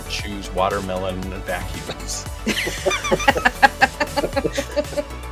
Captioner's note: laughter